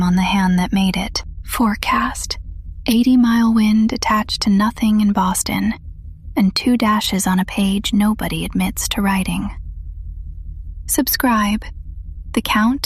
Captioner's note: whispers